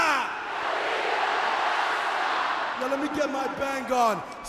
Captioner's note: crowd cheering